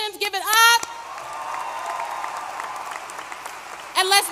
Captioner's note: applause